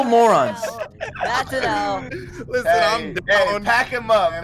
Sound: laughing

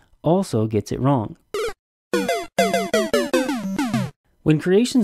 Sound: sound effect

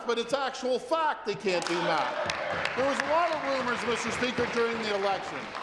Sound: applause

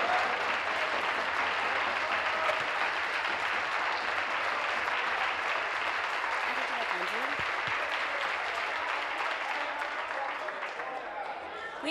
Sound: applause

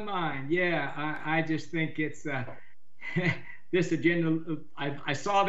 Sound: chuckles

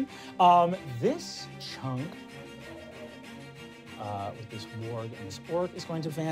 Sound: wind whistling

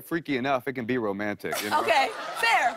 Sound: laughter

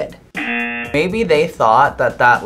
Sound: buzzer rings

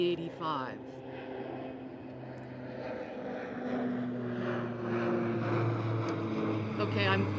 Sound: airplane engine

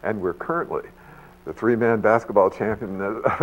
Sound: laughs

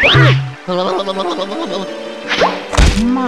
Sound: Luigi gibberish

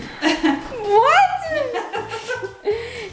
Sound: laughing

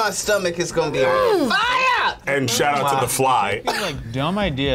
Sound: laughs

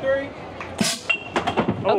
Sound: cans banging

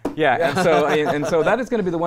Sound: laughing

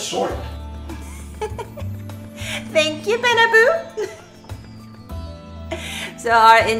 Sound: laugh

